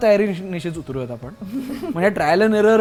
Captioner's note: chuckles; nervous chuckles